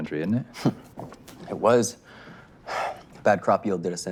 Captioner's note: scoffs